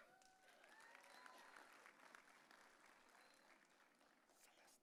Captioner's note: audience cheering